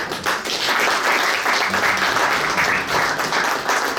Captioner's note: audience applauds